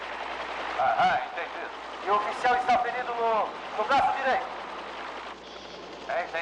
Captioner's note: soldier #2 On Radio; distant Bombing And Gunfire